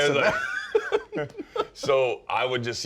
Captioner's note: laughs